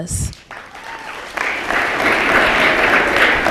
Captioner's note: applause